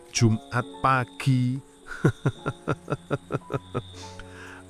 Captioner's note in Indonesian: tertawa